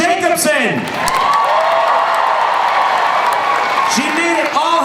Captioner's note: crowd cheering